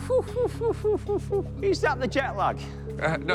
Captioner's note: laughs